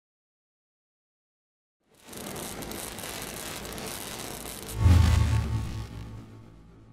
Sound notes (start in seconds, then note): 1.9 electricity crackling